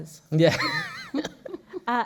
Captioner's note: laughs